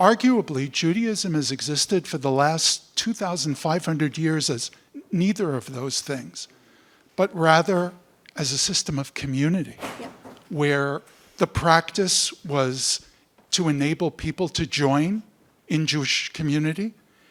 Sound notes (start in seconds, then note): none